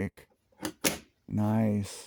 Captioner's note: satisfying snap